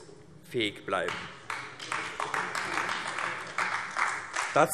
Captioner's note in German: Beifall AfD